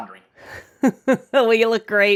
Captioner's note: laughing